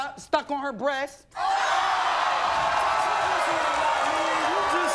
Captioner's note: audience groans